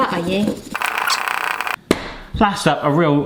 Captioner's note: fast rattling